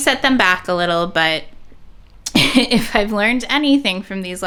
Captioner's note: laughs